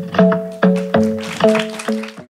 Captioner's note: audience clapping